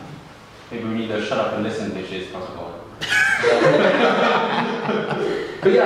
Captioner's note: group laughing